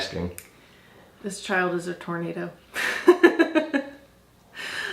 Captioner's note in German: lacht